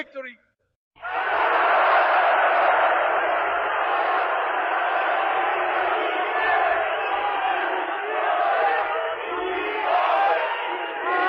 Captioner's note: crowd chanting